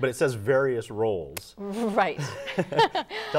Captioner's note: laughing